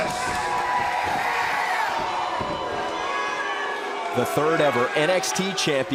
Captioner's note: crowd cheering